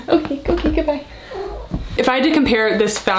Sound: cut purrs

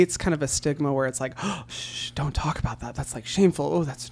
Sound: gasps

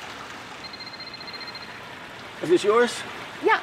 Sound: phone ringing

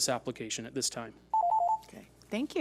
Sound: timer beeps

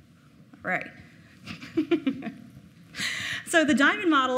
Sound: laughing

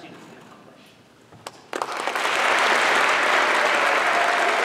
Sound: applause

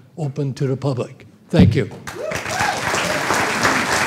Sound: applause

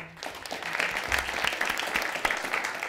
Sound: applause

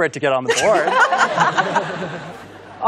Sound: laughter

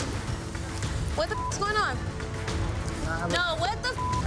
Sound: beep

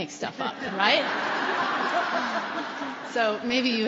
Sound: laughter

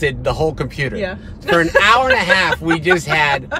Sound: laughs

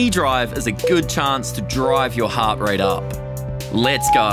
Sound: timer beeping

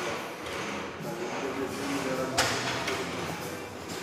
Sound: gym noises

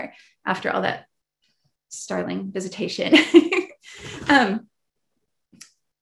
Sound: laughs

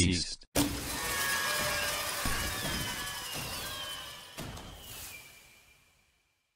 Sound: confetti blast sounds and fireworks

